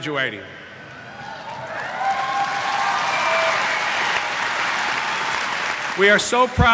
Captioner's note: cheers